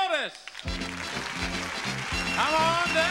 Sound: audience applauding; upbeat music

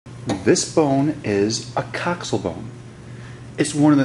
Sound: voiceover

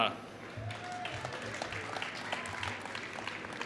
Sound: applause

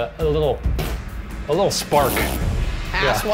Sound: blows raspberry

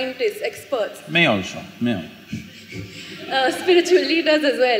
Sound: laughter

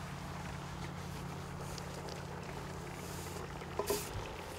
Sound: pot boiling

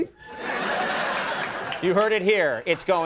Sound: audience laughing

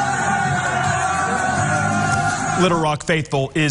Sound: cheers

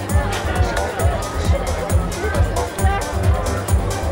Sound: indistinct chatter

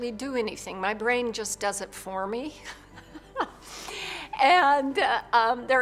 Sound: laughs

